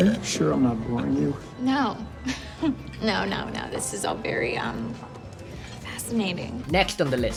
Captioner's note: laughing